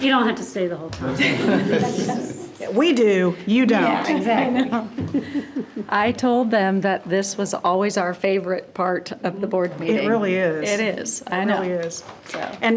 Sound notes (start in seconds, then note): 1.0 group laughing